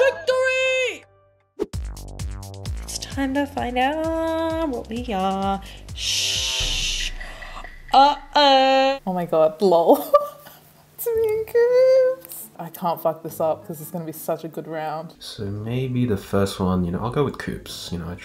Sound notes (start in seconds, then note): 1.6 upbeat music; 10.2 laughing